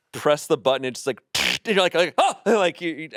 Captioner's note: zaps